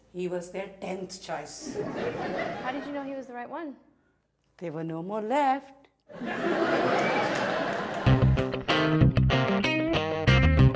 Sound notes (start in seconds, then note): 6.1 audience laughs; 8.0 upbeat music